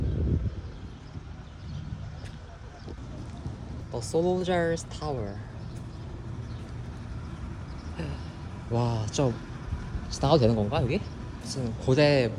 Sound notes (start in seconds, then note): 7.9 sighing